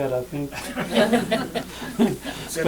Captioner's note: laughter